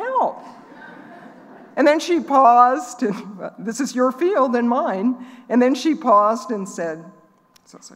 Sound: laughing

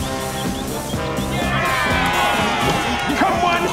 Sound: cheering

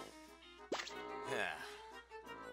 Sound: sigh

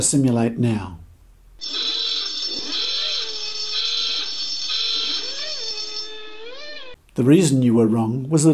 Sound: noisy klaxon

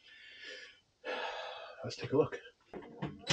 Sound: sigh

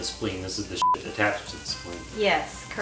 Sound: beep

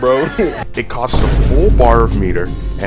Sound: chuckles; boom

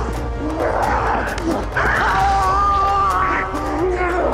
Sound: chomp

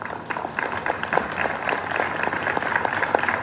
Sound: applause

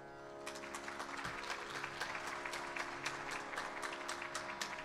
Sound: audience applauding

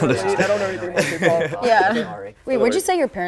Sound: laughter

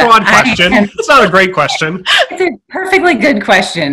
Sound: laughing

